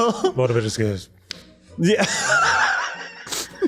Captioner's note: laughs